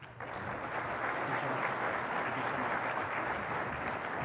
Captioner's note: audience applauding